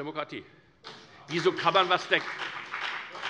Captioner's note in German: Beifall bei der FDP